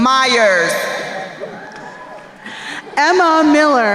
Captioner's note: crowd cheering